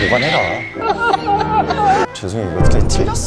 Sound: laughing

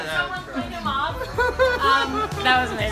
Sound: laughter

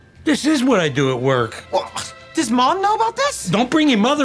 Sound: scoffs

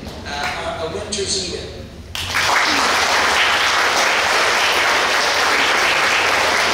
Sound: clapping

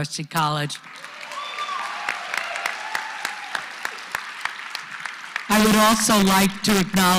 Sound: applause

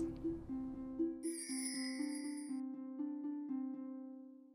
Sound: bells chiming

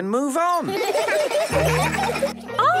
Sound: laughter

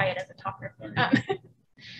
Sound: laughing

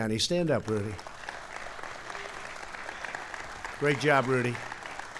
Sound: applause

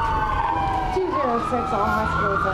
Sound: siren

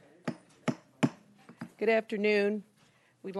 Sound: gavel

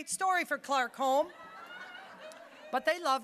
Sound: audience laughing

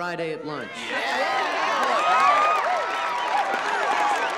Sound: crowd cheering

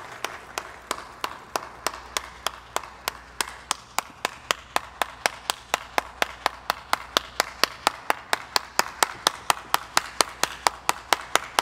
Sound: Shia LaBeouf claps for 14 seconds

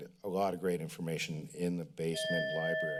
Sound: bell sound

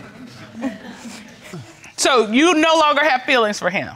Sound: chuckles

